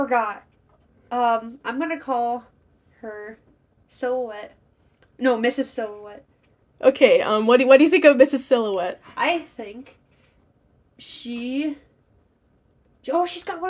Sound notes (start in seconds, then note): none